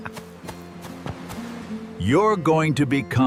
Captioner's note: laughter